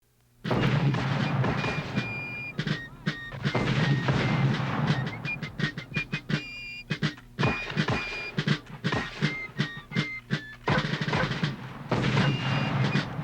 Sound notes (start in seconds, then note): 3.2 mortar fire booming; 7.4 musket fire popping; 11.2 mortar fire booming